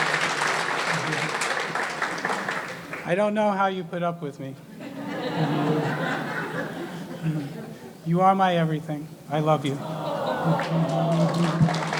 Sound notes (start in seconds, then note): 4.8 audience laughing